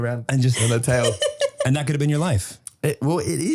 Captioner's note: laughing